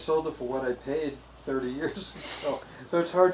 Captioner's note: chuckling